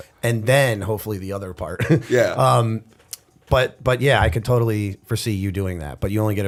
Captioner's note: chuckle